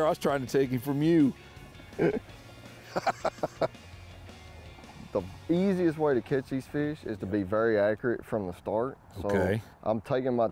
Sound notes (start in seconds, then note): 1.8 laughs